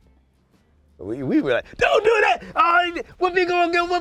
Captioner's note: yelling